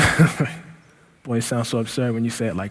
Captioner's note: laughing